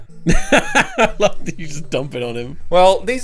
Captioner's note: laughing